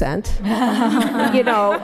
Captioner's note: laughter